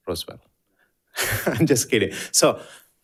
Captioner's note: chuckles